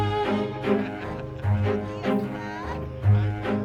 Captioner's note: laughter